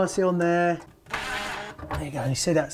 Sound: whirring

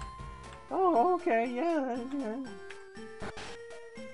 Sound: Morty voice

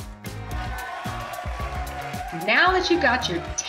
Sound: crowd cheering; clapping

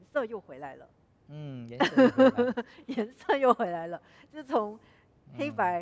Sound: laughs

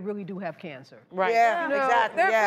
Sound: various vocal agreements

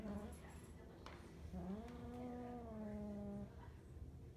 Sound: growling

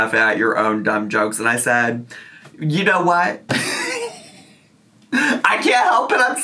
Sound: laughing

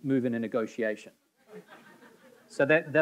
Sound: audience laughing

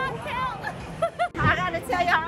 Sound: laughing

